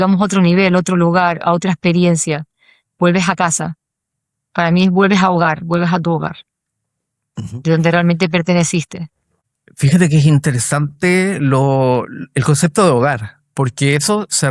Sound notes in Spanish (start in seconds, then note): 7.3 carraspeo